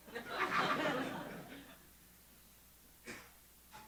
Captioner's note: audience laughing